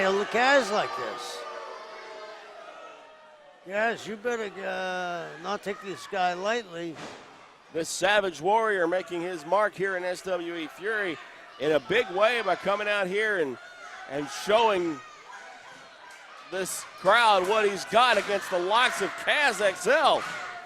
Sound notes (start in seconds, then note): 0.0 crowd boos